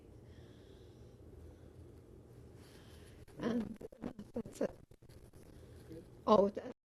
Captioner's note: pauses for 3 seconds